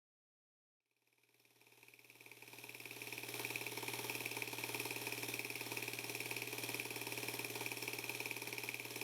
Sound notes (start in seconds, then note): 1.6 film projector rattling